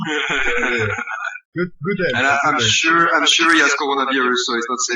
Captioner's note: laughs